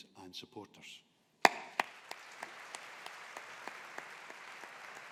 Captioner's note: audience applauding